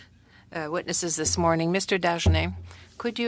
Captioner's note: speaking French